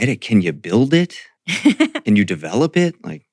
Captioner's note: laughs